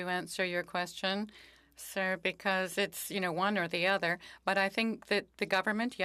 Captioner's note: speaking French